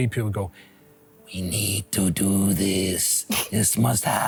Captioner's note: sinister voice